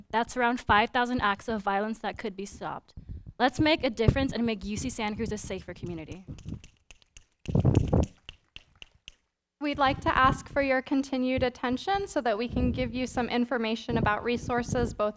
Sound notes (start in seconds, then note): 7.5 snapping